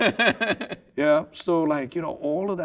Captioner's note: laughing